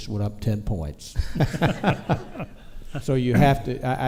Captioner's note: all chuckle